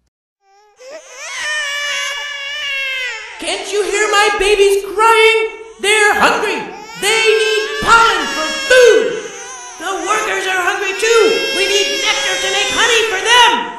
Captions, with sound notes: [Babies crying] Can't you hear my babies crying? They're hungry! They need pollen for food! The workers are hungry too. We need nectar to make honey for them.